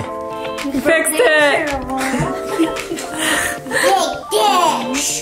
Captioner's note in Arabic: يضحك